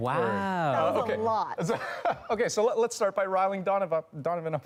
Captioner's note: laughter